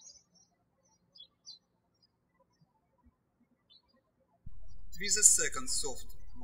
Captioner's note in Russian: птички щебечут